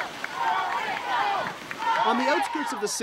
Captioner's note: crowd cheering